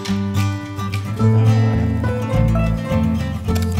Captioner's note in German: Knurren